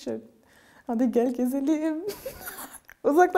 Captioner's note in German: Sie lacht